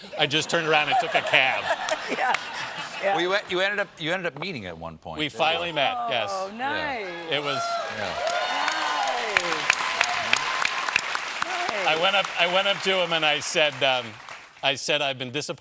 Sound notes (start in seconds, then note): 9.5 applause